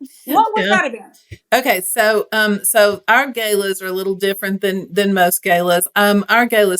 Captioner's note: laugh